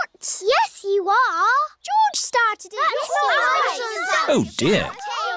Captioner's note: all arguing